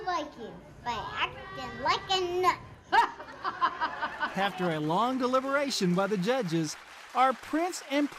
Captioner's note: laughter